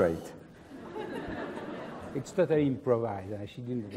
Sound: laugh

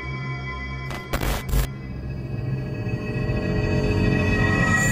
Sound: static crackling

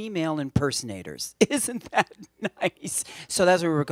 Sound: laughing

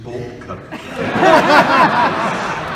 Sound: audience laughing

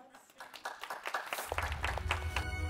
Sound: applause

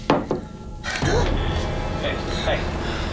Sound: gasps

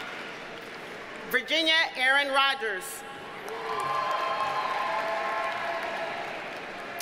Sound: audience cheers and applauds

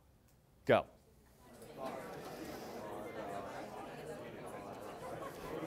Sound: chatter

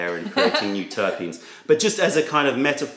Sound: laughter

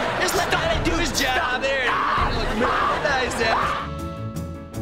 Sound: screaming

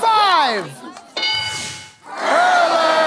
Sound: bell dings

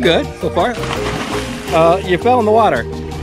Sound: water splashing

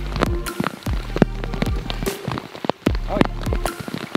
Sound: rain splashing; soft upbeat music

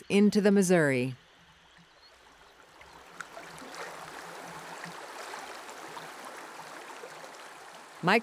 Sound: slow moving river

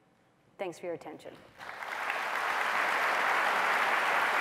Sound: applause

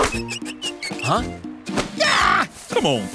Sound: screaming

